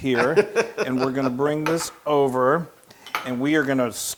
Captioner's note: laugh